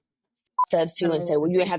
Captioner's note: beep